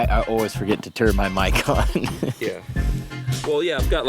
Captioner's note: laughs